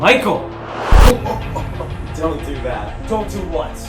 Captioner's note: laughing